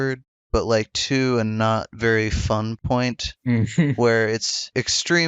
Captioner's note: laughs